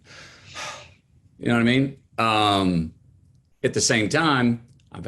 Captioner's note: sighs